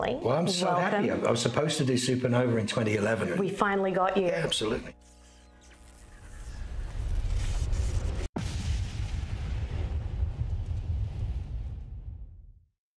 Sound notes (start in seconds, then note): 6.4 logo rumbles